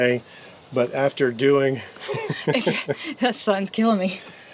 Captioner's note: laughs